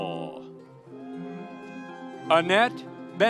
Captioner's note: audience cheering